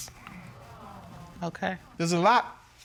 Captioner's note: audience murmuring